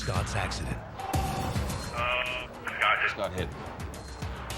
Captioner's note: telephone rings